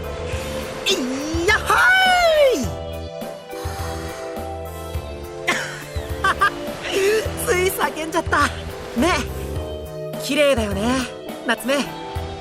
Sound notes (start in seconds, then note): 5.4 laugh